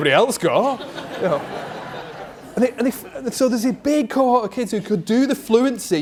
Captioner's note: crowd: Laughs